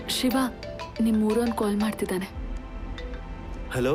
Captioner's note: mobile ringing